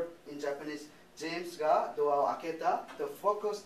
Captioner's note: speaking japanese